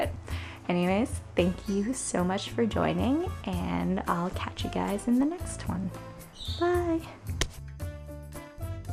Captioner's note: slaps screen